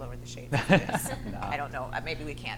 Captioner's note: laughs